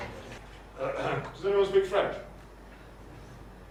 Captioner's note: ahem; silence